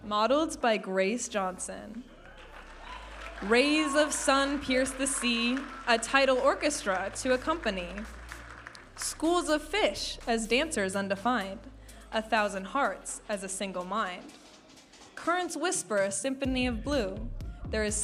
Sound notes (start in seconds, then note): 2.4 audience applauding and cheering